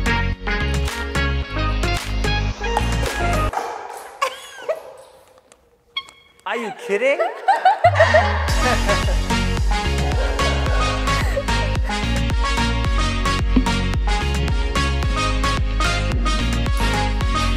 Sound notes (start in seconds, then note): 4.2 laughs; 9.8 laughs